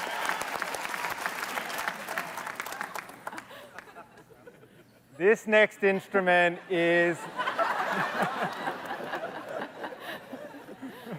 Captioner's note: applause